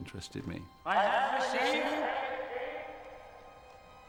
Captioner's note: reverberating